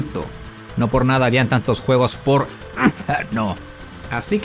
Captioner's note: cof